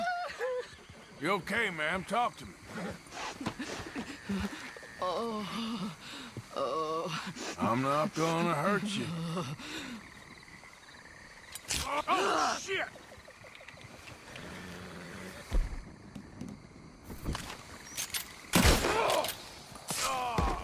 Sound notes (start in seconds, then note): 11.7 loud slash; 18.5 gunshot fires